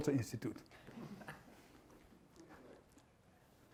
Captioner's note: laughter